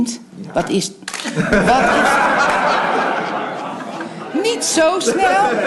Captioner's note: laughter